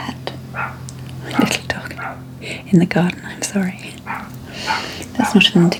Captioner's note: barking